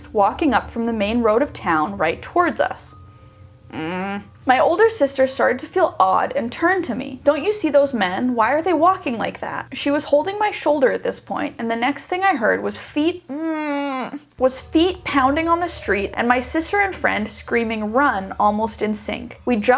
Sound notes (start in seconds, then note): 3.6 groaning anxiously; 13.3 groaning anxiously